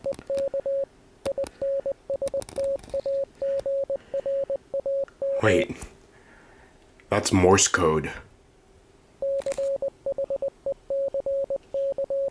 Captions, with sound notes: *beeping noise* Wait, that’s morse code.